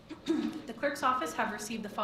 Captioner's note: clears throat